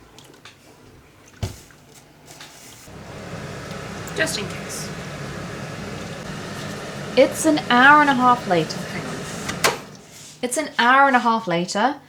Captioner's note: turns extractor fan back on